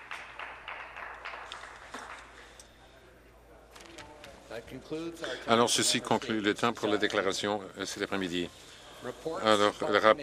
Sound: some Applause

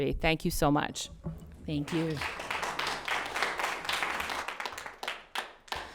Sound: everyone applauds

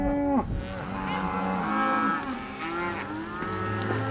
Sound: cattle mooing

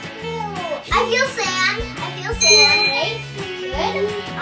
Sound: ding

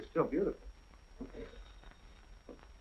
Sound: phone rings

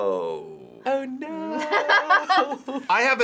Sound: laughs; chuckles

